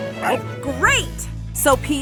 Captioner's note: none